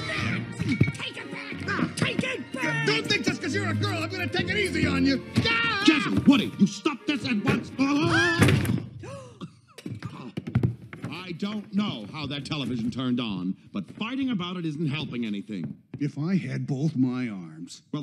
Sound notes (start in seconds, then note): 5.3 yells; 7.7 yells; 7.9 shrieks; 9.0 gasps